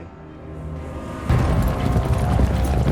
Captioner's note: horses running